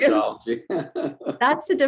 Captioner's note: laughs